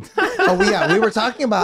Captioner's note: group laughing